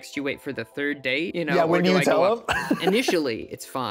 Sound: chuckles

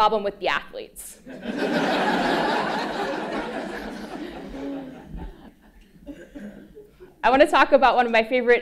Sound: laugh

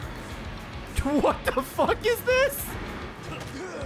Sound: laughs

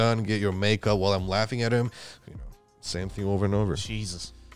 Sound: none

